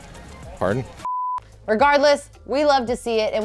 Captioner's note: beep